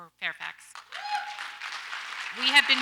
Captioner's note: audience applauds